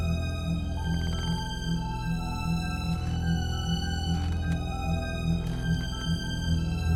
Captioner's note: suspenseful music continues; stairs creaking